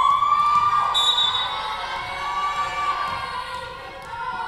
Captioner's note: whistle blowing